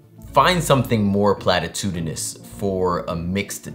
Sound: none

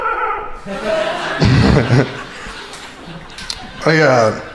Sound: crowd laughing

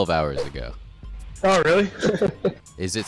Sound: laughing

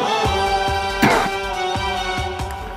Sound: coughing

